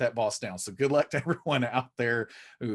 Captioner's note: chuckling